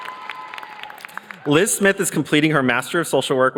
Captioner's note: cheers and applause